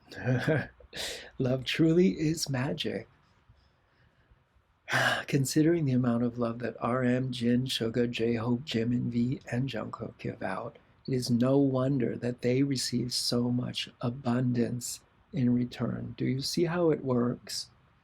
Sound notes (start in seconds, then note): 0.2 laughter; 4.9 sigh